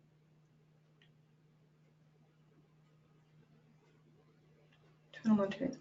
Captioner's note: pause